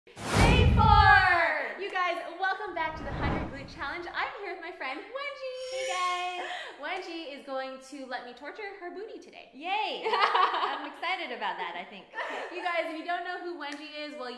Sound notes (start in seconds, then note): 10.1 laughs